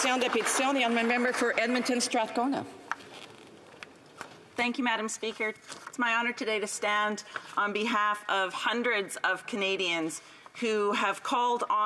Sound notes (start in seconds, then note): 3.1 speaking French